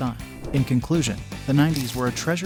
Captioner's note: voiceover